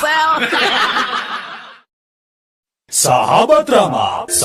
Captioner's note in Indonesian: tertawa